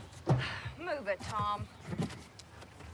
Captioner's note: sighs